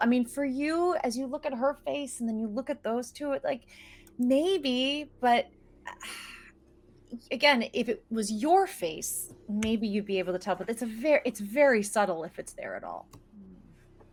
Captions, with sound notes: I mean for you, as you look at her face and then you look at those two, like maybe, but... (sighs) Again, if it was your face, maybe you'd be able to tell. But it's a very, it's very subtle if it's there at all.